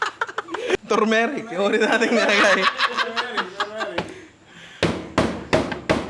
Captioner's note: laughter